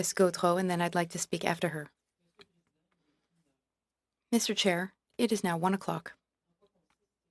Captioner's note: speaking French